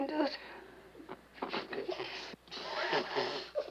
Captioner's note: blows out candles